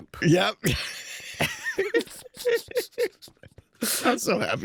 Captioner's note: laughter